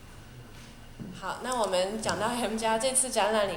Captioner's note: Mandarin